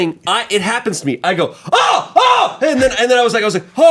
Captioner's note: yells